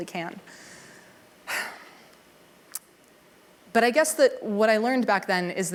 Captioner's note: sigh